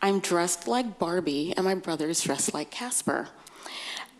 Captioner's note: none